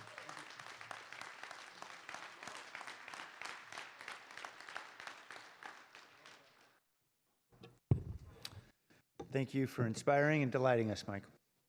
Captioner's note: clapping